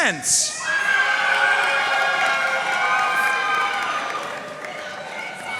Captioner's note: audience cheering and applauding